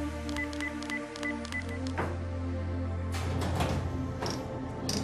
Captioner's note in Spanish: Bips